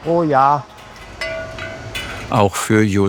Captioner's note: metallic sound